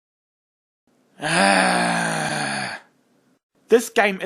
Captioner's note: groaning